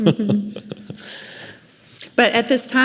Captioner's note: laughing